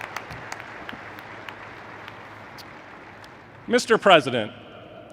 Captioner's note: applause